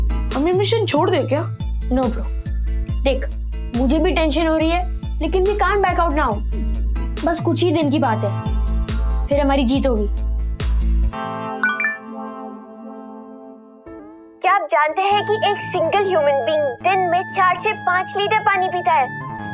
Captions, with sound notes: - Shall we abort the mission? - No, brother. Look, I'm tense too. But we can't back out now. It is just a matter of a few days. Then the victory will be ours. [mobile ringing] 'Do you know that a single human being' 'drinks four to five litres of water a day?'